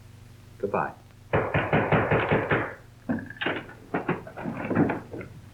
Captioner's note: someone knocks loudly